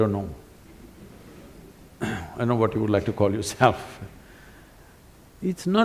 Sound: laughs

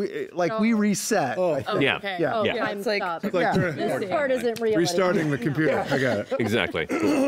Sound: sounds of agreement

